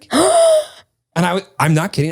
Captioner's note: sighs